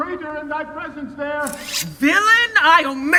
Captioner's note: sword unsheathing